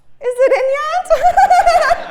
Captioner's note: laugh